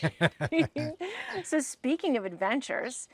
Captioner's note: both laugh